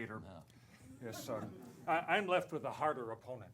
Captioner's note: laughter